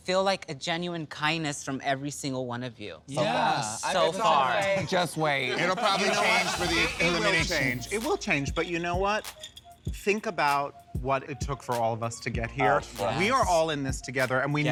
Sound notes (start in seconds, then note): 7.2 chuckles